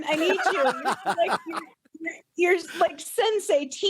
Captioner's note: laughing